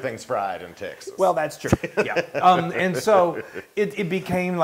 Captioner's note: laugh